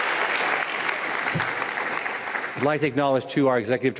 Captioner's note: applause